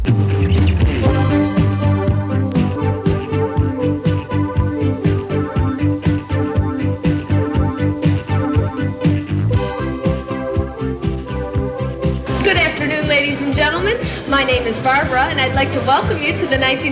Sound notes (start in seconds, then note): 0.0 instrumental music; 12.0 voiceover